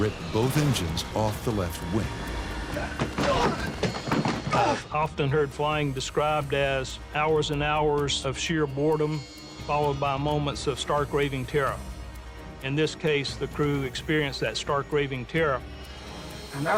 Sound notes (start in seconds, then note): 2.8 grunts